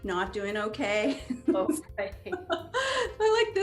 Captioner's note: laughs